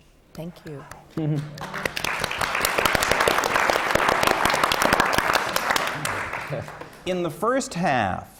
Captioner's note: applause